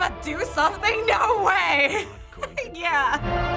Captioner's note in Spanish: risas